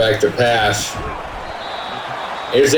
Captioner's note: crowd Noises